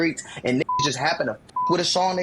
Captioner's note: beep